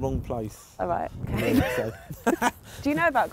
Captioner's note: laughing